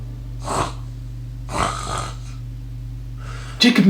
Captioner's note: louder snoring; snoring